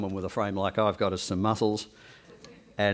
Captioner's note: background chuckles